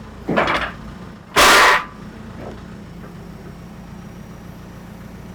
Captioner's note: metals clanking